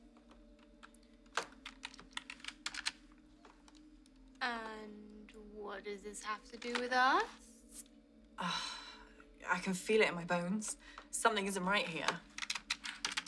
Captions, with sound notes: (keyboard clattering) - And what does this have to do with us? - (sighs) I can feel it in my bones. Something isn't right here.